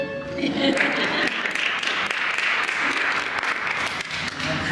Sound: applause

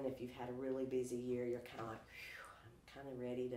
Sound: sighs

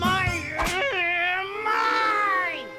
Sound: weird enraged Fudd noises

